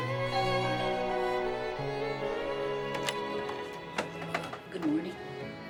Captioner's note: door opens; doorbell rings